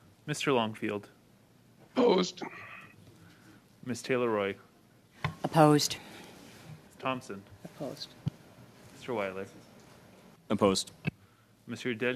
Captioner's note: silence